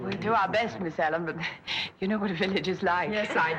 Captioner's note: chuckles